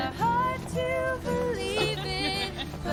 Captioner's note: laughing